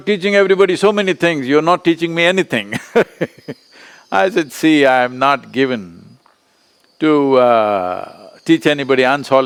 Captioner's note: laughs